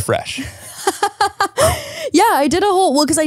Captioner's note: laughs